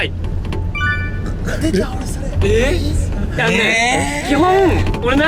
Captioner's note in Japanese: 小声